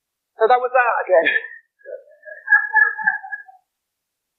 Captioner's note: laughter